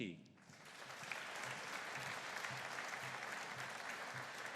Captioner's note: audience applauding